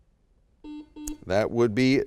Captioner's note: beep